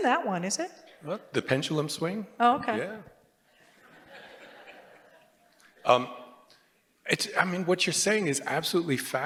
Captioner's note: laughter